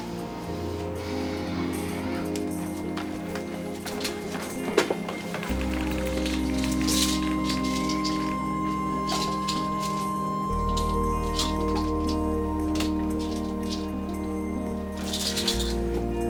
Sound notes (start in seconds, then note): 1.0 Ashley sighs; 6.6 pills rattling; 12.3 dramatic, quietly tense electronic music